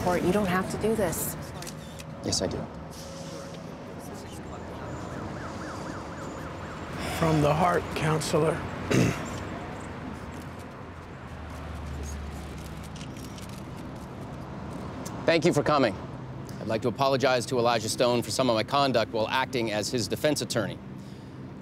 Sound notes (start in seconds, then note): 5.2 siren wails in distance; 8.8 clears throat; 9.9 camera shutters clicking